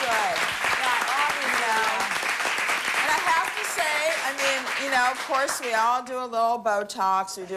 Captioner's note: applause